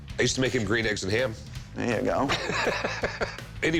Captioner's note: laughs